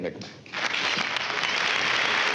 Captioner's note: applause